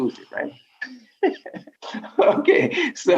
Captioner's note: laughs